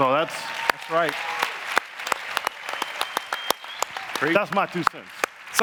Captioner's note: audience applauding